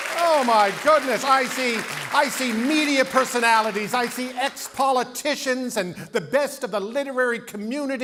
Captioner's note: cheering and Applause